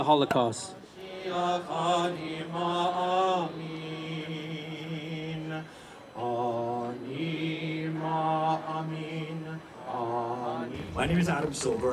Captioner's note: chanting